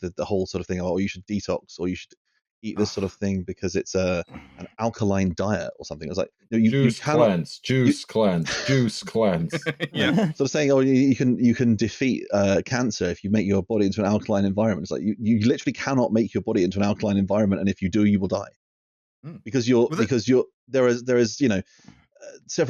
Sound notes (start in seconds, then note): 6.6 chants; 8.2 laughter